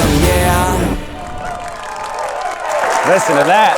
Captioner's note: audience applauding